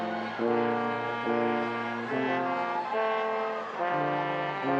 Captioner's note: audience cheering